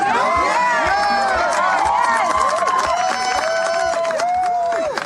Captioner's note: cheering and applause